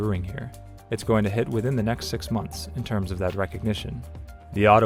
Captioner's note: voiceover